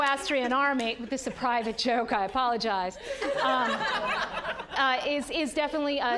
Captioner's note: audience laughing